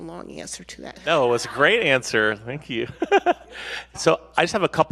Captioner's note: laughs